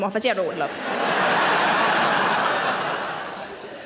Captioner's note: audience laughs